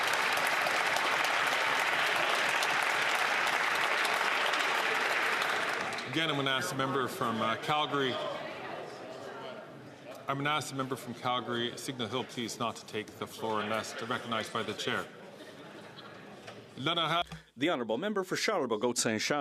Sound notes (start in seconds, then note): 7.2 some Applause